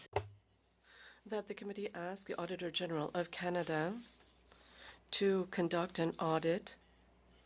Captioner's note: speaking French